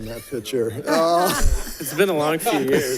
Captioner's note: all giggle